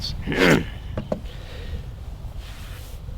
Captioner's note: grunts